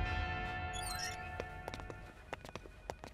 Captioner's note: Door opens